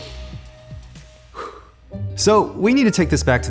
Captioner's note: exhales